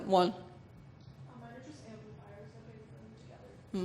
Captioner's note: voiceover